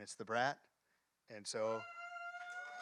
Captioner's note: applause